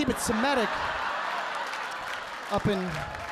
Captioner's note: audience laughing